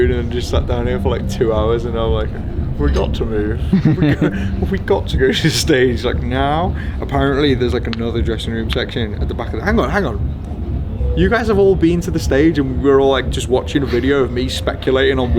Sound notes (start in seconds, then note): 3.4 chuckles